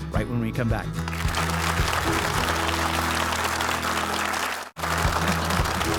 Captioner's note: audience clap